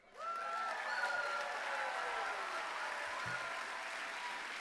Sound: applause

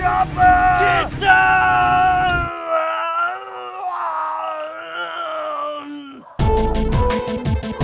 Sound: makes random arrrgh noises

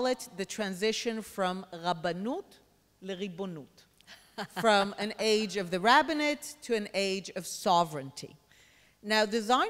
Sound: speaks Hebrew

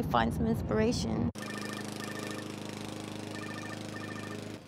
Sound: phone ringing, lawn mower humming

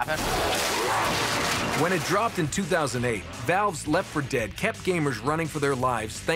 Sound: gunfire

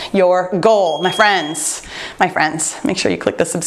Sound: timer beeps

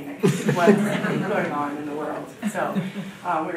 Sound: audience laughing

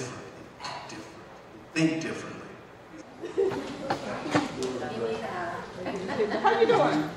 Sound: group chattering

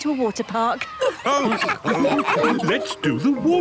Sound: all laughing

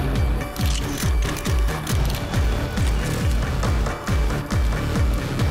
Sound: camera clicks

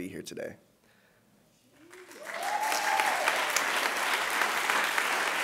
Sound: applause

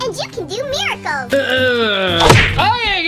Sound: grunts

